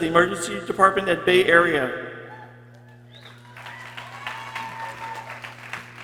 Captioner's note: people cheering